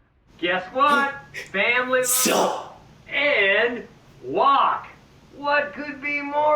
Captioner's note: gasps